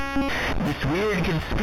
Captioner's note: glitching noise